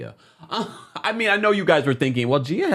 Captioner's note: chuckles